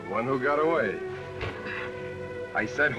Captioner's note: sighs